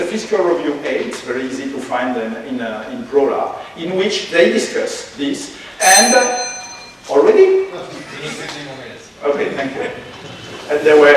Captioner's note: warning Bell rang!